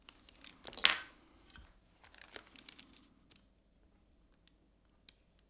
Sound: restoration pick thuds

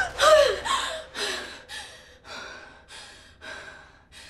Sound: woman screaming; woman panting

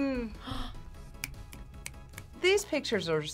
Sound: snaps fingers

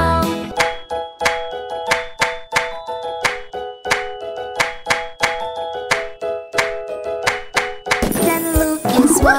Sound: clap

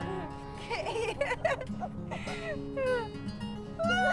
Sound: laughing

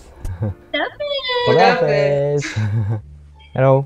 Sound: Farsi

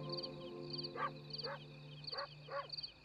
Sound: dog barking in distance

